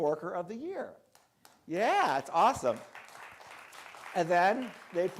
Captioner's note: crowd clapping